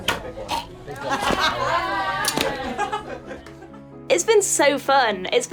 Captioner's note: group cheering and laughing